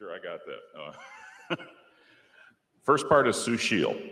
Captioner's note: laughs